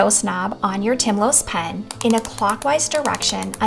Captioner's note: pen clicking